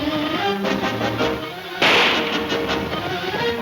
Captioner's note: gun fires